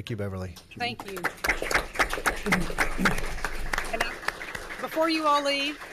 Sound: audience applauds

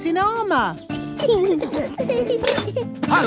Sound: children giggling

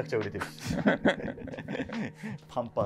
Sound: laughing

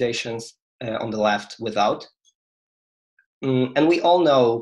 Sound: speaks faintly

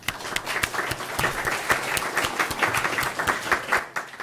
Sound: applause

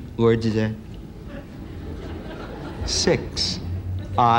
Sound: laughter

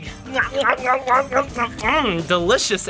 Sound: munching

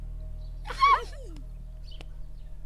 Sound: laughing

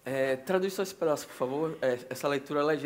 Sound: speaking Portuguese

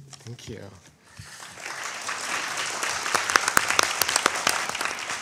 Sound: audience applauding

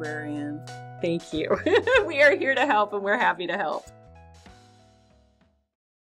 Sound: laughter

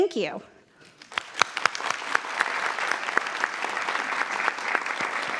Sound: audience applauding

